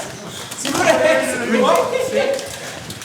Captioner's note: laughs